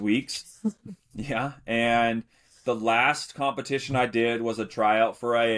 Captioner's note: chuckles